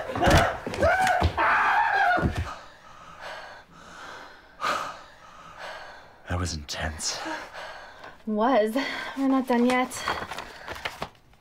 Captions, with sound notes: (Oswald Screams) (Panting) THAT WAS INTENSE. WAS? WE'RE NOT DONE YET.